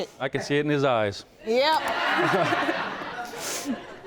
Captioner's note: laughing